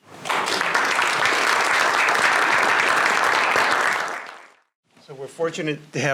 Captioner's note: applause